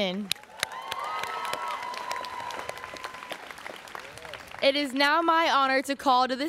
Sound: students cheering

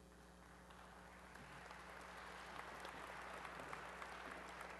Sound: applause

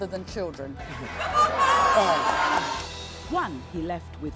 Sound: laughs

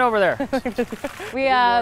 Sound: laughs

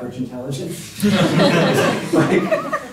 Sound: laughter

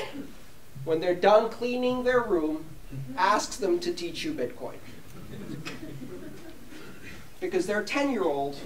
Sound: laughter

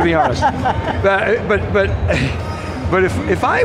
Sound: laughing; chuckles

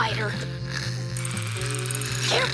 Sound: snoring

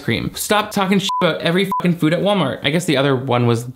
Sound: beep

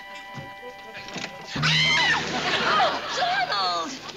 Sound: screams

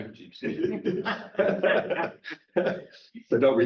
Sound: chuckle

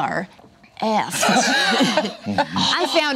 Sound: laughing

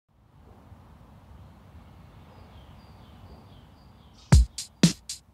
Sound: birds chirping

